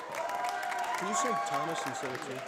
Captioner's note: audience applauding